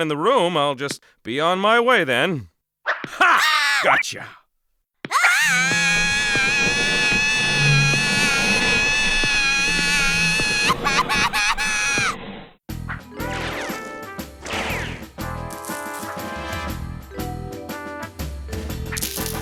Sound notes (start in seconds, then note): 3.2 shriek; 4.9 screaming; 6.0 scraping